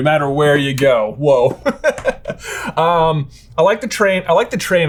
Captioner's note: laughing